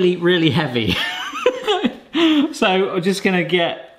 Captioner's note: person laughing